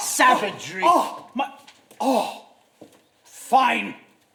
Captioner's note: pinter cries out